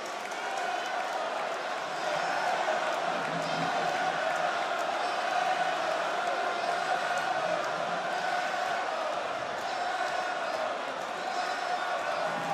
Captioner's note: crowd cheers; crowd chants